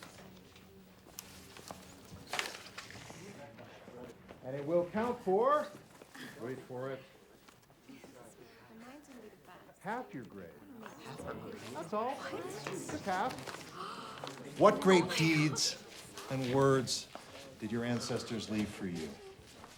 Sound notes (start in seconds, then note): 7.4 students chattering